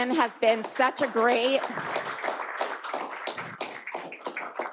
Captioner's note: clapping